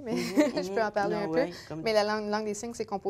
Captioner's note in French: rires